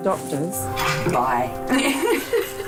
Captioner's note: laughter